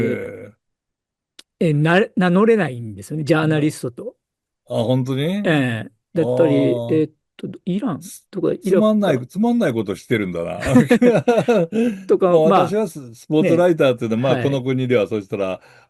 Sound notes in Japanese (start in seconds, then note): 10.5 笑い